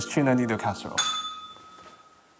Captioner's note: bell rings